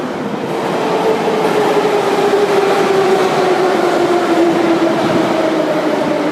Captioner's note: arrival of another train at the station